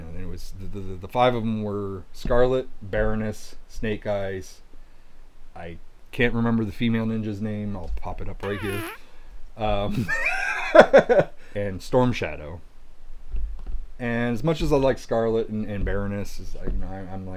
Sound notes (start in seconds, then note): 8.4 blows raspberry; 10.0 laughing